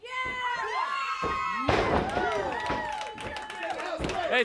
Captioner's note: audience cheers